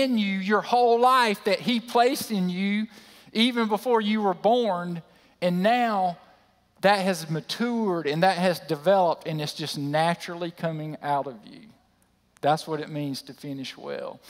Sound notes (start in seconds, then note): none